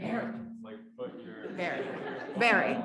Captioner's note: audience laughs